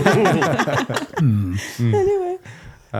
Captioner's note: laughing